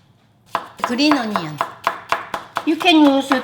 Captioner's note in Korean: 칼로 송송 써는 소리